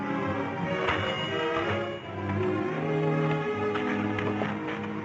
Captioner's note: door bells jingling